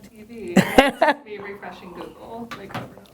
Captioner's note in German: Lacht